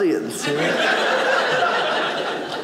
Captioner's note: audience laughing